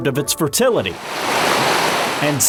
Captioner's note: water flowing